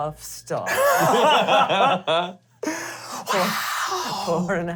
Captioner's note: laughter